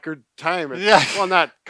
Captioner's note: laughs